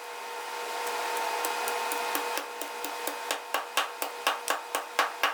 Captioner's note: pestle tapping